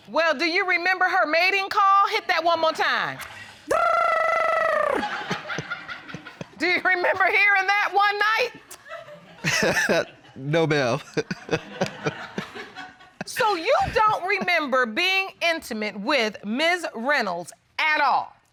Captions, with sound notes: Well, do you remember her mating call? Hit that one more time. [rolls tongue] [laughter] Do you remember hearing that one night? [laughs] No, ma'am. So, you don't remember being intimate with Ms. Reynolds at all?